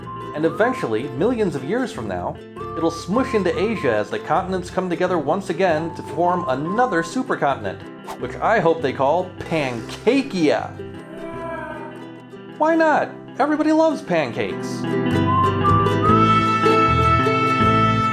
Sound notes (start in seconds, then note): 11.0 groans